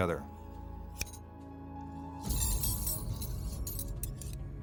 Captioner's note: rings clinking